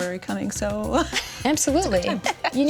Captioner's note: laughs